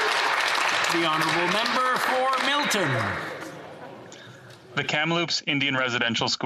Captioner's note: applause